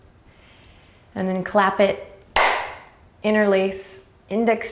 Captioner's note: clapping